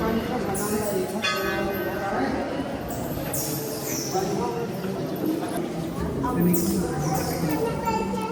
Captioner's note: crowd chatter.. clanging bells